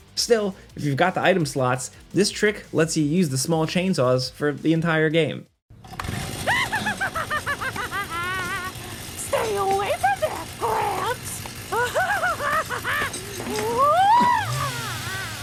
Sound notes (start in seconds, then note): 6.4 laughing; 11.6 laughing